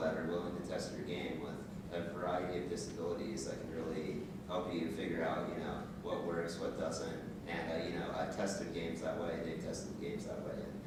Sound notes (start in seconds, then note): none